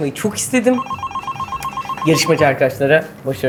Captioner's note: phone Ring